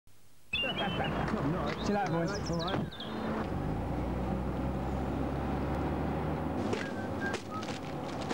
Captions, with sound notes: (Sound of people laughing in the taxi) See you later boss. Alright. (Sound of taxi pulling away) (Whistles)